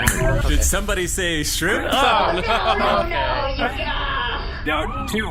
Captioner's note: Two snaps his fingers